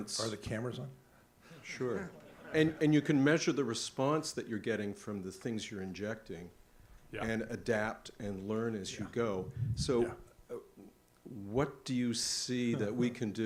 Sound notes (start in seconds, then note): 2.0 audience laughs